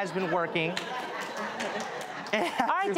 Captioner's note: audience laughs